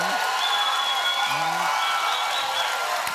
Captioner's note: cheers and applause